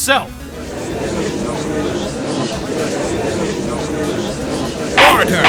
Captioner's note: gallery chattering